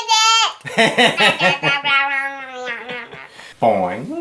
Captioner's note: something in cat language